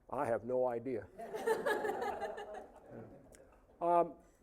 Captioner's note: audience laughing